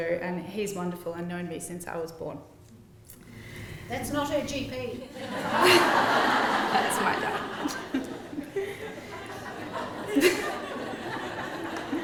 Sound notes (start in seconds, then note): 5.1 laughter